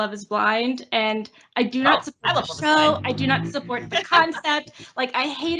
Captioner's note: laughs